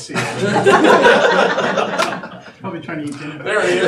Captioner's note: audience laughing